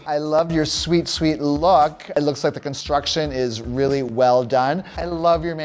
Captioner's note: none